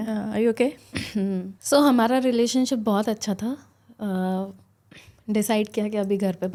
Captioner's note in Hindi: गला साफ़ करने की आवाज़